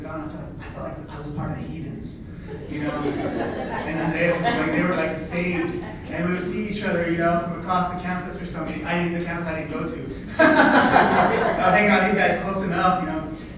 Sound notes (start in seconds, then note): 2.5 laughter; 10.3 laughs